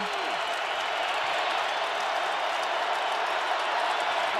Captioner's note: crowd cheering